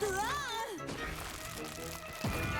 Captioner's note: shouts